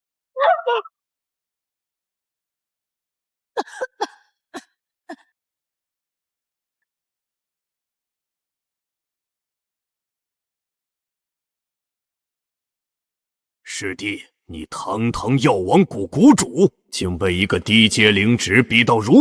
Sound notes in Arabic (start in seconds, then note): 3.6 يسعل